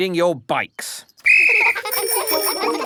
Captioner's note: blows whistle; giggling and ringing bells